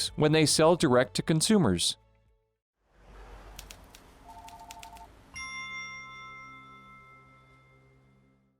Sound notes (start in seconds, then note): 5.3 bell dings